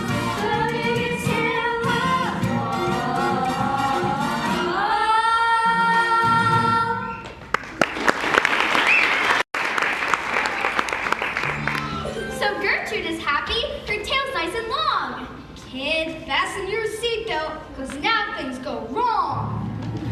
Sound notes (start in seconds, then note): 7.3 song ends; 7.4 applause